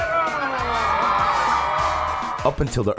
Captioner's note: audience cheering